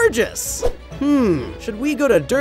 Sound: air whooshing

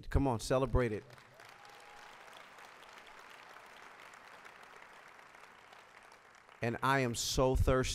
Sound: applause

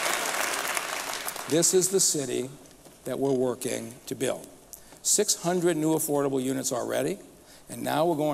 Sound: applause

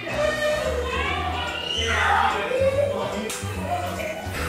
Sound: screaming

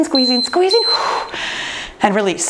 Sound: timer beeping

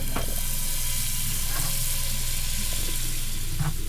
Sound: sizzling

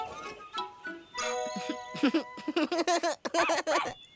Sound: laughing; barking & Panting

